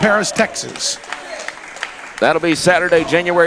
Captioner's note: crowd clapping, cheering